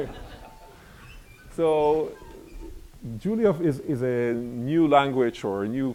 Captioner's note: laughter